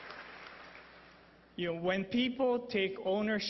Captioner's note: applause